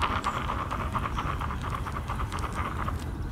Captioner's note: sound of rattle